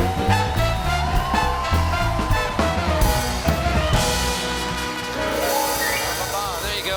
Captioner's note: applause